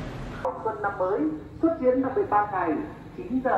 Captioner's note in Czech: Mluví rozhlas z motorky